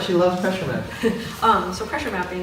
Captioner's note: laughs